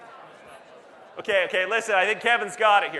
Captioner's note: audience Murmurs